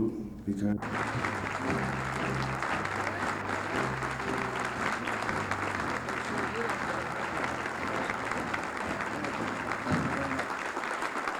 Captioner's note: applause, music